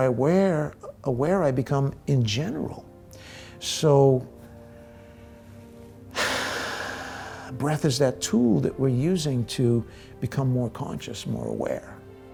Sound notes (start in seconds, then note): 3.5 deep breath